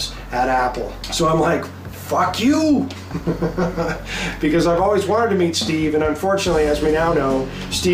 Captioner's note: laughter